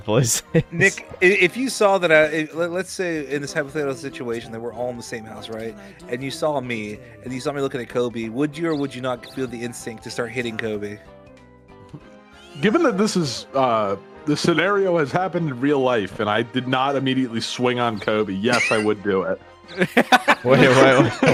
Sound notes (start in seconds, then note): 8.5 chirp